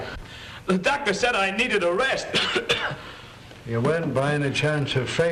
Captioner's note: coughing